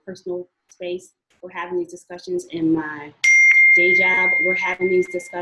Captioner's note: siren drowns out